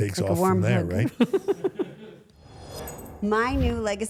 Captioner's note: everyone laughs